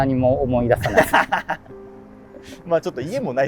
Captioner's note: laughing